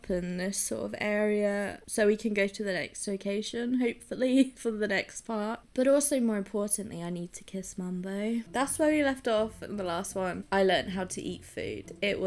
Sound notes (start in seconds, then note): none